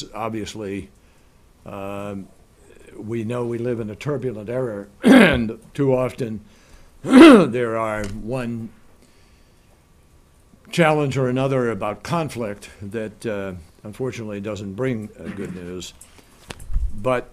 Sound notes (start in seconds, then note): 8.0 coughs